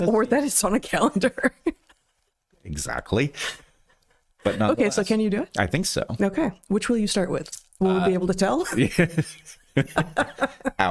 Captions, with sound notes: Or that it's on a calendar. Exactly, but not the last. Okay, so can you do it? I think so. Okay, which will you start with? Will you be able to tell? (Laughing)